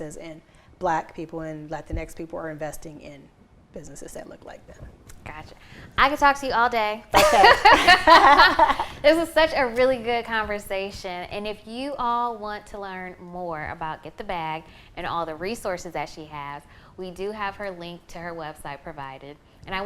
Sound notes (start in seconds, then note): 7.2 both laugh